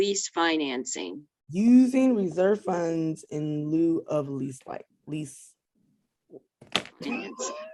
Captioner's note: laughs